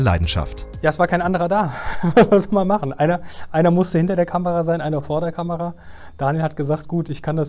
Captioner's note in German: lacht